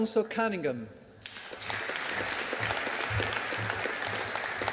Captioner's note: audience applauding